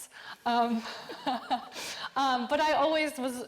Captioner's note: all laughing